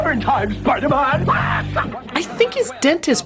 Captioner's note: cackels